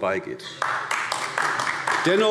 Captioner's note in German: Beifall AfD